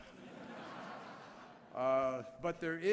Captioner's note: laughter